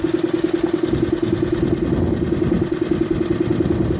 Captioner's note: wind blowing